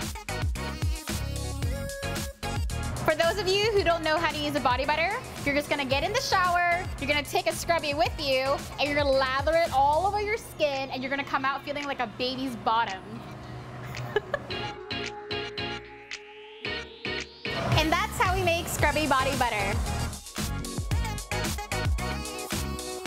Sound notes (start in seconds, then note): 0.2 electronic music; 13.8 laughs; 14.9 electronic music; 20.0 electronic music